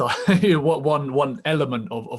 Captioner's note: laughs